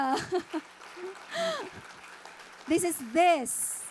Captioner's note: audience applauding